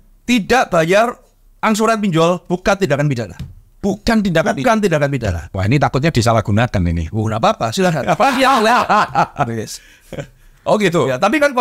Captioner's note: laughs